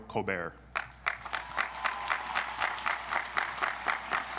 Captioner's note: audience applauds